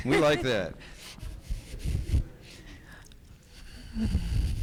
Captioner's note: host laughs; audio shuffling